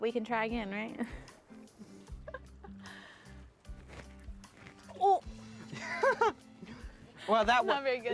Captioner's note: laughing